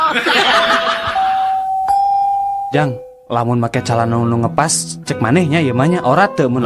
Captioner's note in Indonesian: tertawa